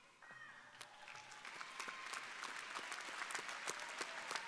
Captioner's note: crowd applauding